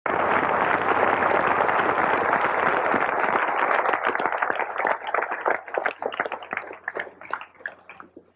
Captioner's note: applause